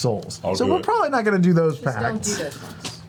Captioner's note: laughs